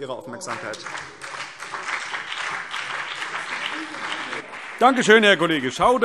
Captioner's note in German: Beifall BÜNDNIS 90/DIE GRÜNEN und vereinzelt CDU